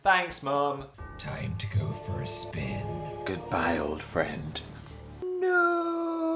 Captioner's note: sinister voice